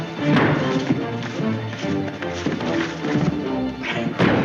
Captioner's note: feet scuffling